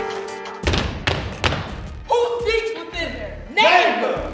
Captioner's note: feet thumping